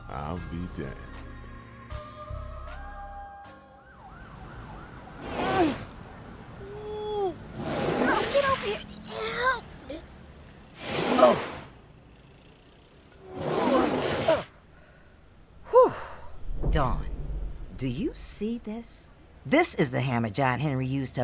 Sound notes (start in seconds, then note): 3.4 siren blaring; 11.0 dark box rasping as Nana pushes